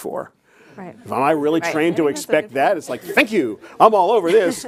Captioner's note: chuckles